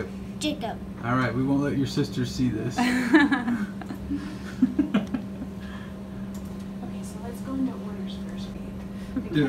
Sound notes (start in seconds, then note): 2.9 laughing